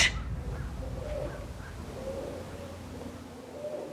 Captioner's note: owls hooting